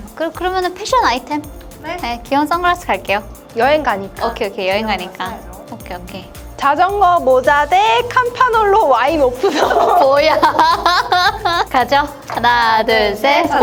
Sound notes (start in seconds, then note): 9.4 laughter